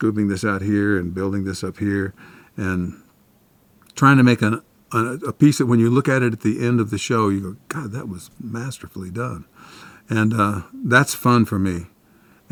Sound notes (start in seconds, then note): none